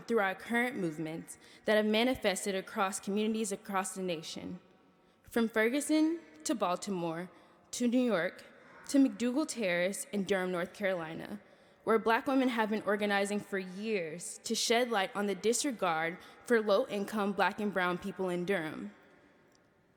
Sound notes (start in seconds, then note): none